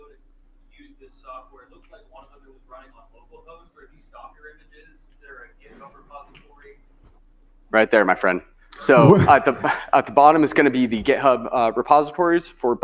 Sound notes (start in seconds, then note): 4.7 speaking faintly